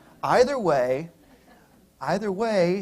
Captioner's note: laughter